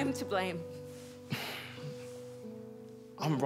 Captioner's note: sighs